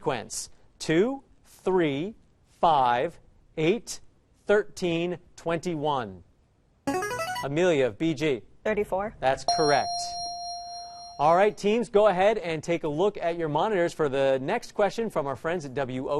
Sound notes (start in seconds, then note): 6.9 answer bell; 9.5 correct answer chime